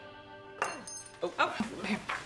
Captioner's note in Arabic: سقوط الملعقة